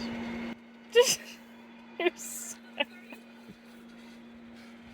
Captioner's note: laughing